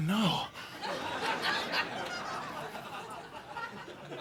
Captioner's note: audience laughing